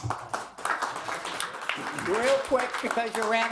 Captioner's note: audience applauds